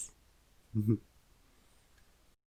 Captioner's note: giggles